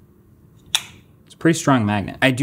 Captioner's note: lenses snapping